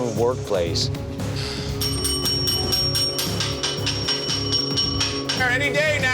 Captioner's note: bell dinging